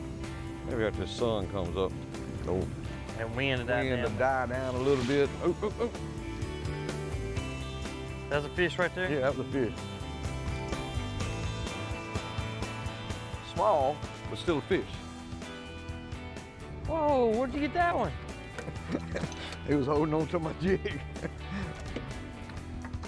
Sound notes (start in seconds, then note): 6.3 country music; 11.3 country music; 18.7 laughs; 20.8 country music